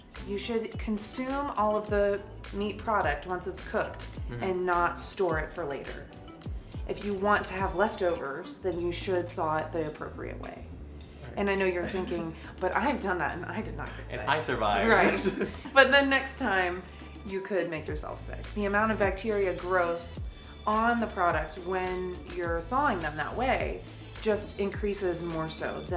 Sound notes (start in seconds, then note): 14.8 laughs